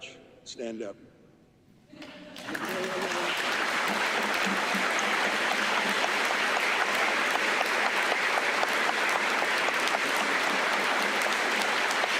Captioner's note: applause